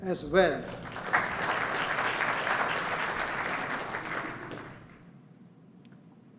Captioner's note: applause